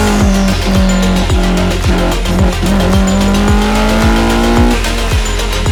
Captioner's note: universal unhappy noises aimed at the fuel cut